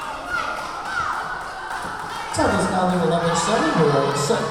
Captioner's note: whistle blowing; yelling